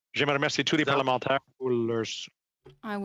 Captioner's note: speaking French